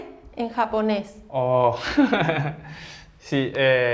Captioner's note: laughs